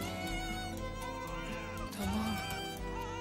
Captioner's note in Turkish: bebek ağlama sesi̇